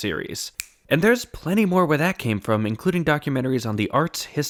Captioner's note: snap